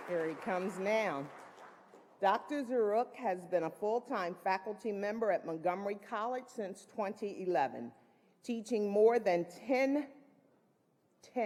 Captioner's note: applause